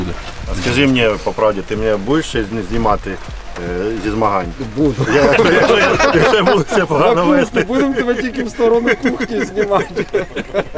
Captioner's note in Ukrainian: сміх